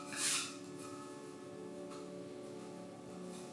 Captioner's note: hand scrapes